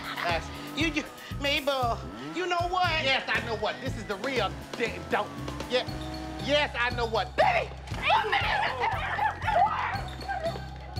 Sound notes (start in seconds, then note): 5.4 stutters